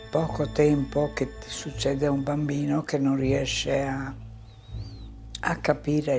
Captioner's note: continues speaking in foreign language